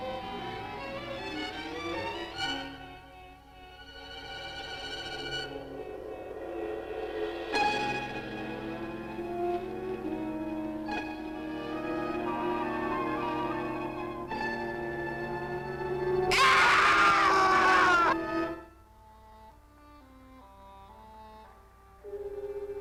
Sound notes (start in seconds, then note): 16.3 men screaming; 18.1 gentle instrumental music